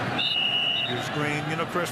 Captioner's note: whistle blowing